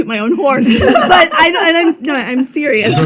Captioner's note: group laughing